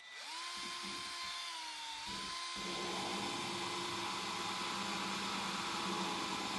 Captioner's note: wheel grinding